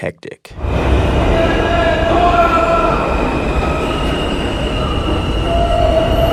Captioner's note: subway bustling; person screaming